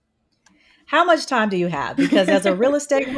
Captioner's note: giggles